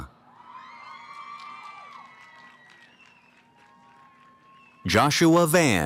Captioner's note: cheering